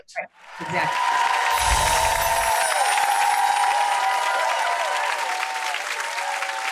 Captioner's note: audience cheering